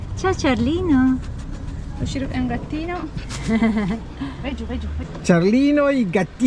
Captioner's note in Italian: risate